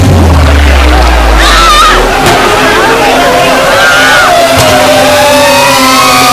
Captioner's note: screams